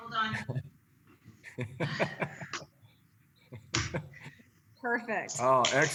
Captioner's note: laughter